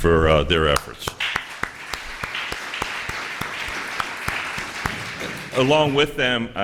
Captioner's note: applause